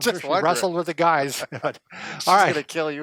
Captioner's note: chuckles